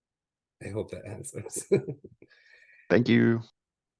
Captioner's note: chuckling